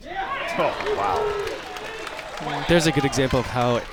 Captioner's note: crowd applauds